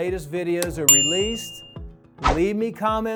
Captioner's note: bell dings